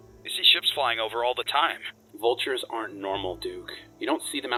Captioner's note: none